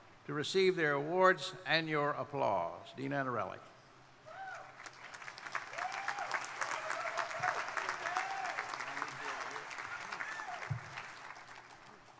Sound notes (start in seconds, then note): 4.4 crowd cheering; 4.7 crowd applauding